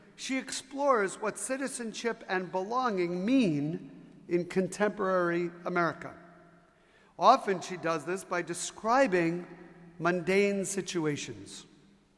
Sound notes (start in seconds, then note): none